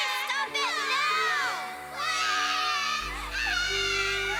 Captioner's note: sobbing Continues